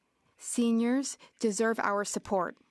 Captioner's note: speaking French